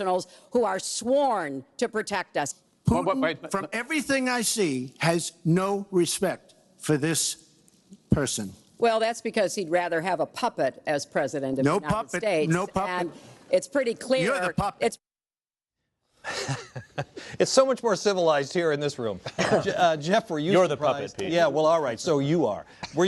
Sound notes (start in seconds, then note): 18.7 laughs